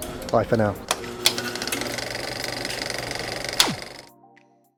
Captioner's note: projector whirring